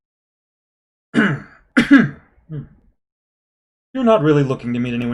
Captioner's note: coughs